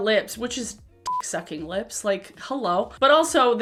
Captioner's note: beep